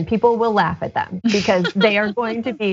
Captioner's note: laugh